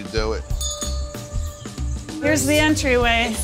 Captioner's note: bell ringing